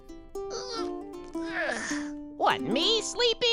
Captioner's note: groans